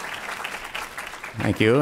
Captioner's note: applause